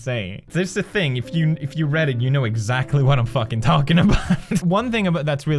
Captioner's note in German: lacht